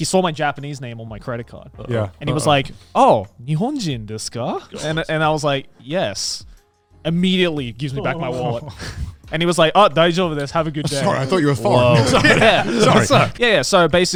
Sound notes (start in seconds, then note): 5.6 speaking in Japanese